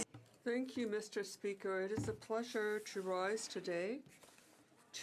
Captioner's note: speaking French